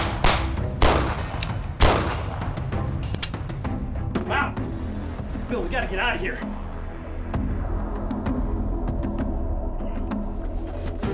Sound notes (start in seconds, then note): 0.0 gunfire; 3.1 hammer clicking